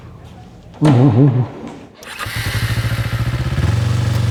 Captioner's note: laughing